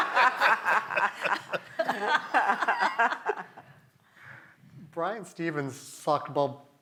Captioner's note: laugh